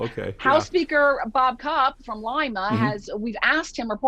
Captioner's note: murmurs